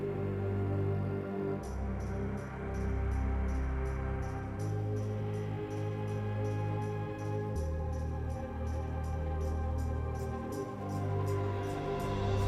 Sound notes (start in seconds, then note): none